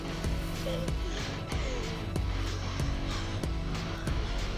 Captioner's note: Carla gasping, crying